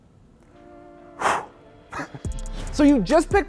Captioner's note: trap music; exhales; laughs